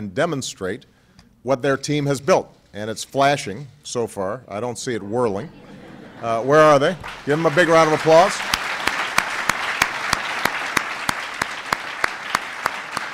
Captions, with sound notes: demonstrate what their team has built. And it's flashing so far. I don't see it whirling. (Laughter.) Where are they? Give them a big round of applause.